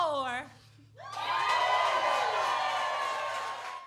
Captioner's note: cheers and applause